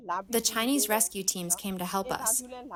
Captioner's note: through translator